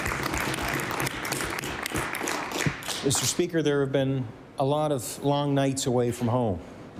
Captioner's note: applause